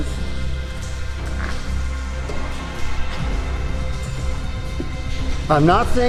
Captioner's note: dramatic music; water trickling